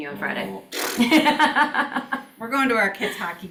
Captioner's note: laughs